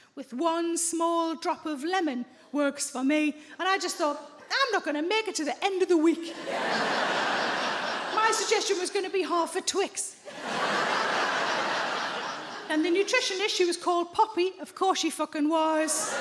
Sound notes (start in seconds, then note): 6.3 audience laughs; 10.2 audience laughs